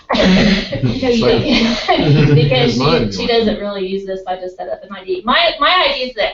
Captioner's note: laugh